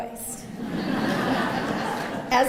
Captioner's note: laughter